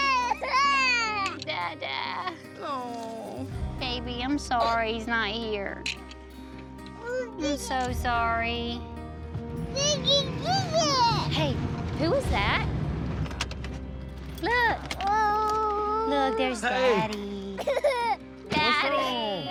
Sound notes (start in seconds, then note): 15.2 whining; 17.6 crying